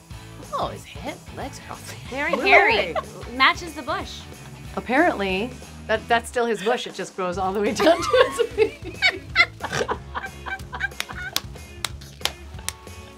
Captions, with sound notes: Ohh... his legs Hairy!! Matches the bush! Apparently, that's still his bush it just grows all the way down to his feet! [laughing] [snorting] [laughing] [clapping]